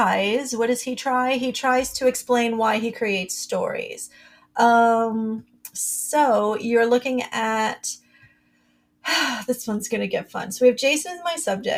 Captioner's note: breath